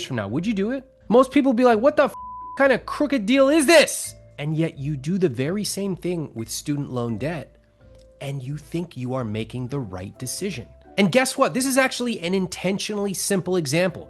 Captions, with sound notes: Would you do it? Most people be like, "What the (beep) kind of crooked deal is this?" And yet you do the very same thing with student loan debt, and you think you are making the right decision. And guess what? This is actually an intentionally simple example